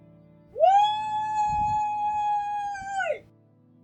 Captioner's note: cheering